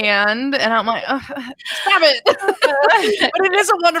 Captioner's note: sighs